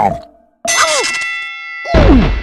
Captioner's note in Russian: динь!